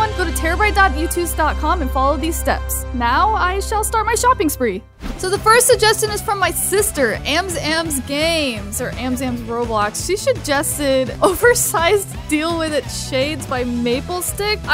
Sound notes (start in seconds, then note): 5.0 screen swoosh